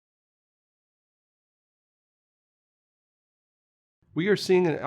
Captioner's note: no audio